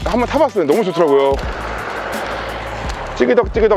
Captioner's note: A car passing